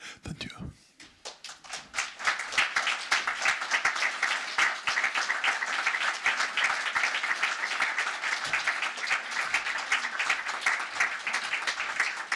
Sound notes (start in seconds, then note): 1.8 audience applauds